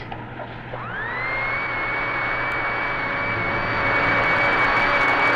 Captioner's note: vacuum whirring